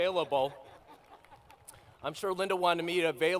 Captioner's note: laughter